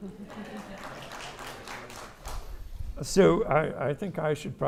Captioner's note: audience applauding